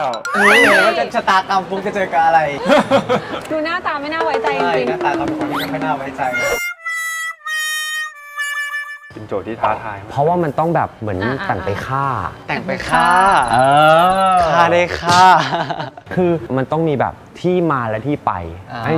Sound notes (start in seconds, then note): 2.5 evil laugh